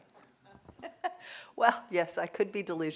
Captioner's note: laughs